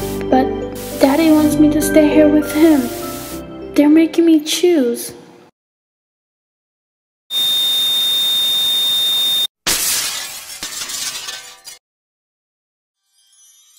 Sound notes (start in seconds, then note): 7.1 high-pitched white noise; 9.6 glass breaking